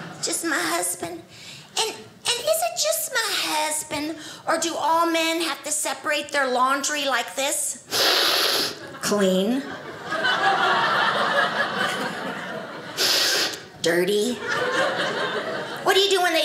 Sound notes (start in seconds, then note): 7.9 inhaling deeply; 9.6 audience laughing; 12.9 inhaling deeply